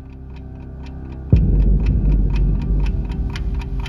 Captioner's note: ticking clock